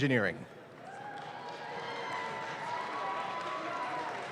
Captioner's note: audience claps